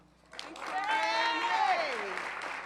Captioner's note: applause